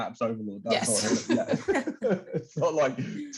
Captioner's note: laughter